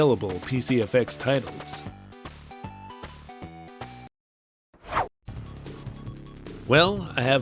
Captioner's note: whoosh